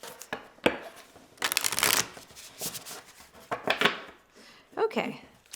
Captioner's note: cards flipping